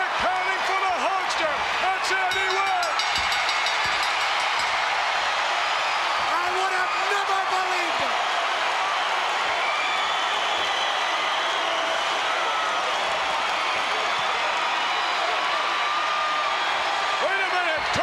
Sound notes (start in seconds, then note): 2.2 bell dinging